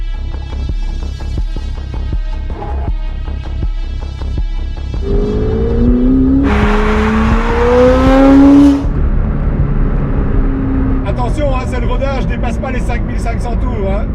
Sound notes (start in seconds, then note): 5.0 engine revving